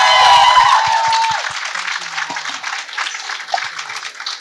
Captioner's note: applause